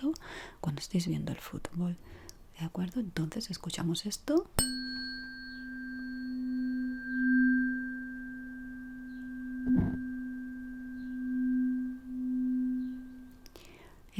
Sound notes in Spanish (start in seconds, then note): 8.6 campana